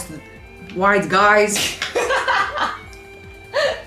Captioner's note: laughter